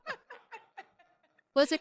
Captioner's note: laughing